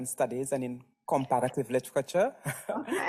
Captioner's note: laughs